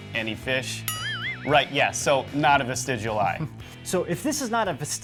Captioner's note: ding